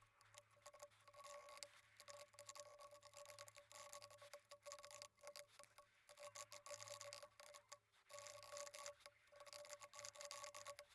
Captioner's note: typing